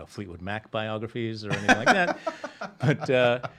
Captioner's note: laughing